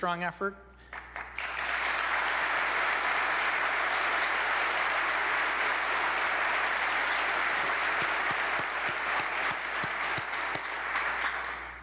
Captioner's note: applause